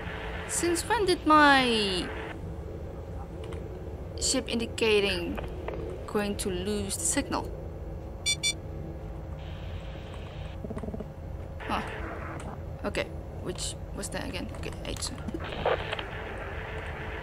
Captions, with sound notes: Since when did my... ...ship indicating... going to lose the signal? *sound cue for airlock destabilization* Huh. Okay. Which... was that again- okay, a2.